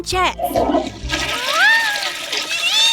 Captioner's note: flushing